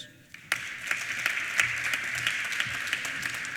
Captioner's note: applause